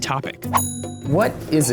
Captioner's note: bell dings